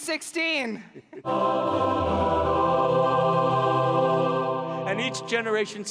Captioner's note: heavenly noises